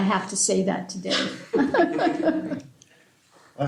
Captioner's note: laughter